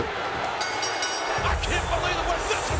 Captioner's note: bell ringing; rock music